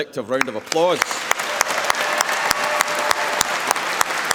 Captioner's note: applause